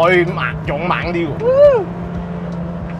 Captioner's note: screaming